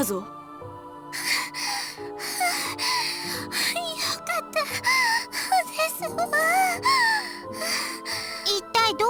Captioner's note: pant; huff